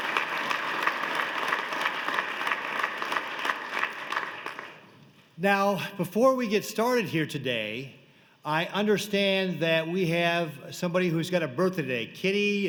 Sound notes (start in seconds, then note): 6.0 applause